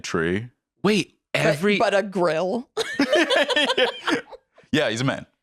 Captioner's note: laughs